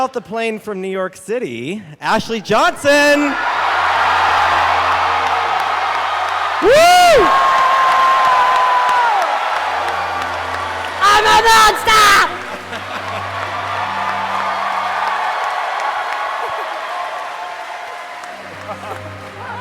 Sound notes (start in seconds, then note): 3.1 cheering; 13.0 cheering and chanting "Monster"